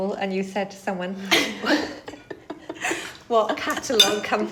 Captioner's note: laughs